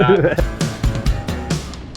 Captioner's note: laughing; upbeat music